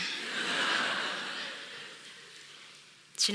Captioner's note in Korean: 웃음